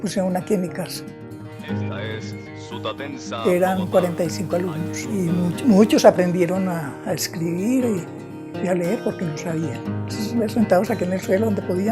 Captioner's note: sounds of a radio